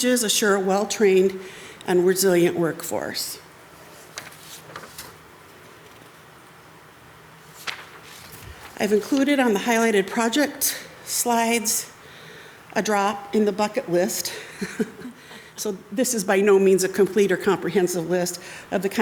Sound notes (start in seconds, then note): 4.6 paper rustles; 14.5 chuckles